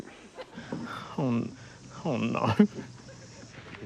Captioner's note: chuckles